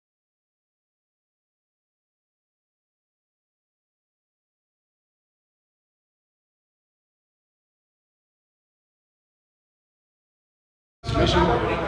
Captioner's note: silence